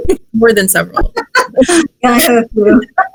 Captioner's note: laughs